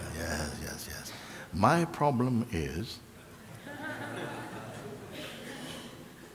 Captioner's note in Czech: smích